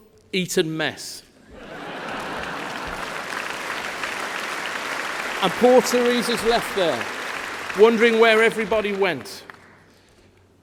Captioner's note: laughter